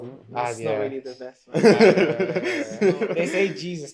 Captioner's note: laughter